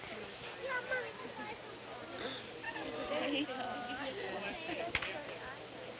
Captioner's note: outdoor auction crowd chatter; chatter